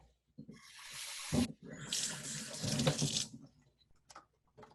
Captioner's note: water splashing